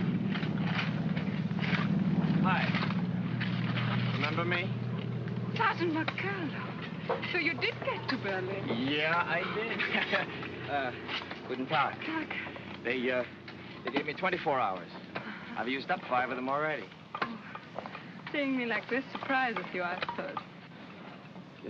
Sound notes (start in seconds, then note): 0.0 sound of shoveling; 9.4 chuckles